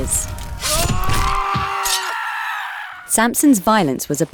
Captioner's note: axes swinging; people screaming